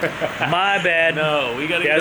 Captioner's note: laughing